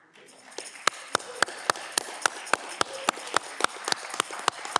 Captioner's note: audience clapping